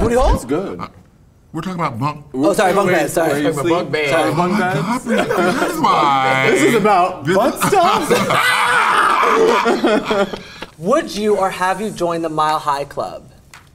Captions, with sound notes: - Your booty hole? - We're talking about bunks. - Oh, sorry. Bunk beds. Sorry. - Oh my god, Priyanka. This is why... - This is about butt stuff? [screams] [group laughs] - Would you or have you joined the Mile High Club?